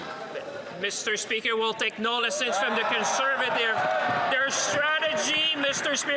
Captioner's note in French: voix de l'interprète